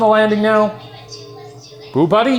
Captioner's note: Boo buddy indistinctly chattering